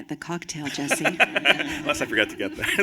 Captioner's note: laughter